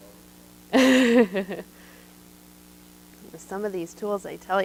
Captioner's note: laughs